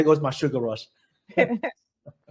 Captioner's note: laughs